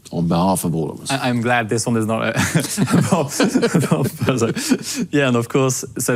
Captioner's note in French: les deux rient